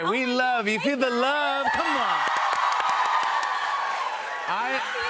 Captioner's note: cheers and applause